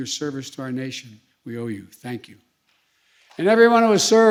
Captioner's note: applause